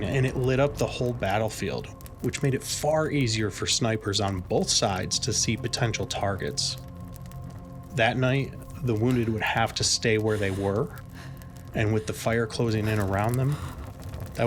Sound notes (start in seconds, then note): 10.2 soldier shuddering